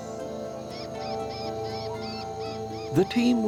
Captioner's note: bats whining